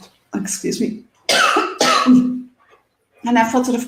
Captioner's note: coughs